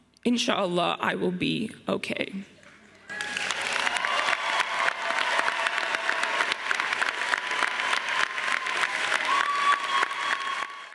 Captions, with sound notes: In sha Allah, I will be okay." (audience cheering and applauding)